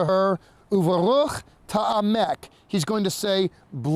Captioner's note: speaking in Hebrew